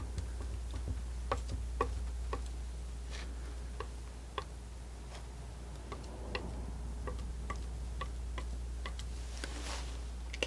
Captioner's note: scratching